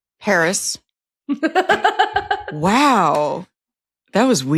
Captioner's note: laughs